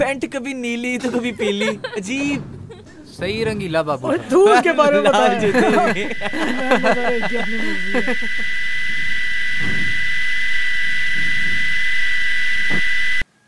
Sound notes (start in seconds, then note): 10.8 chattering